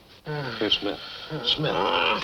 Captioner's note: groaning